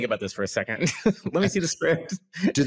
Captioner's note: laughs